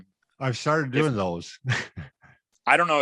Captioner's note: laughs